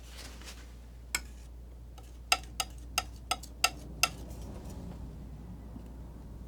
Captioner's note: tapping on the board